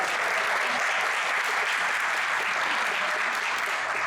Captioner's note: audience applauds